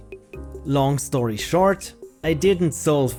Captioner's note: narrating